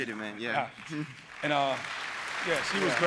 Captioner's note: applause